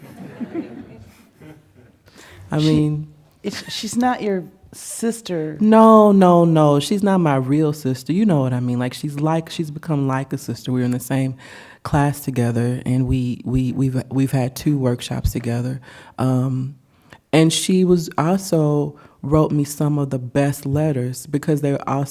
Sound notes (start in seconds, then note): 2.7 laughter